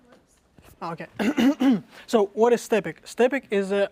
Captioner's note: cough